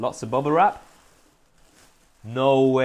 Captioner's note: plastic crinkling